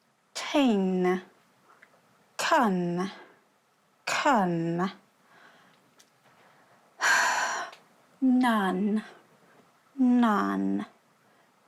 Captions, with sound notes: Thing. Can. Can. (SIGHS) None. None.